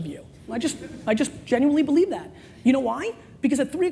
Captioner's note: laughing